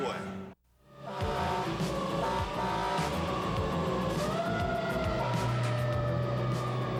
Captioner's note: siren wailing, air horn blowing